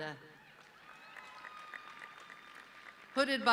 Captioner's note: audience cheering